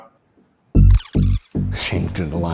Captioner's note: tape fast-forwarding